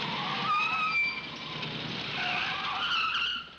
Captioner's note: tires screeching